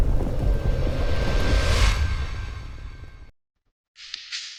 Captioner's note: wind whooshing